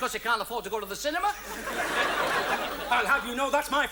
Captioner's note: audience laughs